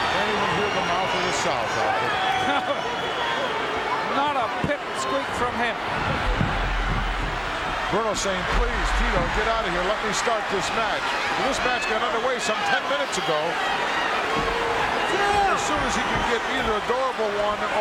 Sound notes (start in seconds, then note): 2.9 laughs